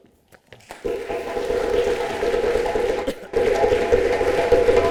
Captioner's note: applause and drumming